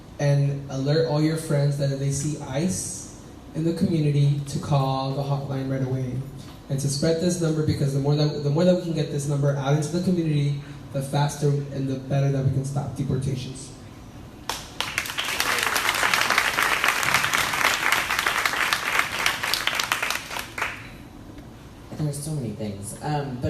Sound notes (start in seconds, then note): 14.5 crowd applauding